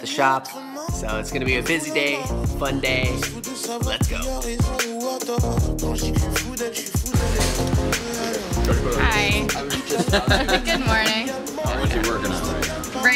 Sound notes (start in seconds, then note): 4.3 peppy music; 9.3 laughs